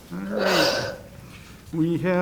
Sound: sighs

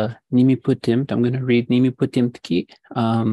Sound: speaking indigenous language

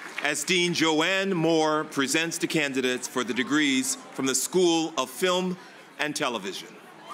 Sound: cheers and applause

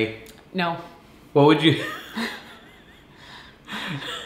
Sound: laughs

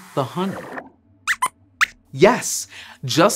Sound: squeaks squeaks

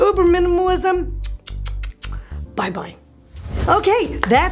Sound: clicks tongue

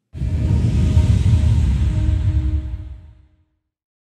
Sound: logo whooshes

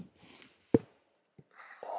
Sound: pop!

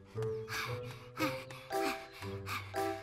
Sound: grunting; panting

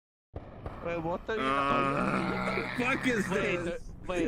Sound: off-screen players groaning

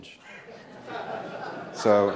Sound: laughing

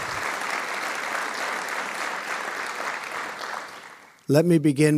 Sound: audience applauding

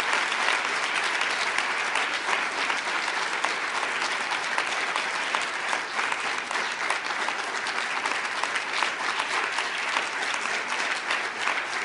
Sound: applause

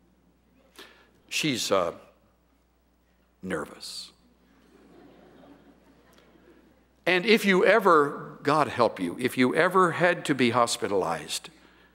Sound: laughter

